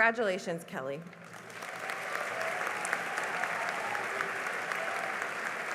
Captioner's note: cheering and applause